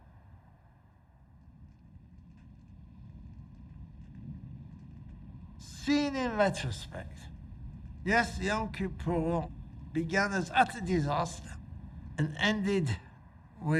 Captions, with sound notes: (fire crackling) Seen in retrospect, yes Yom Kippur began as utter disaster, and ended with